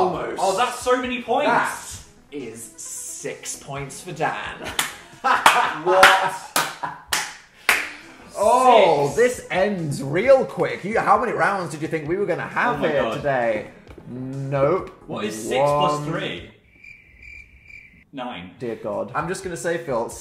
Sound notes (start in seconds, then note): 4.5 laughs and claps; 16.4 crickets chirping